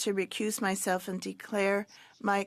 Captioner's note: speaking French